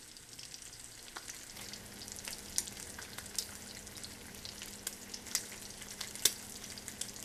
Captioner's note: bacon sizzling